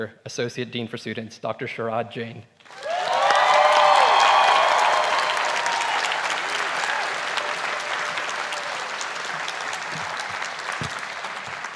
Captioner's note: applause